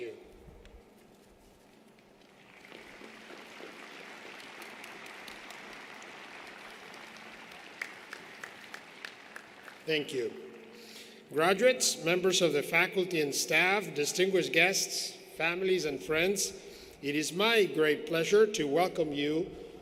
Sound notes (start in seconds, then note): 8.9 applause